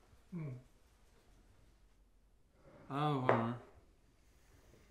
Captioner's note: Jonathan grunts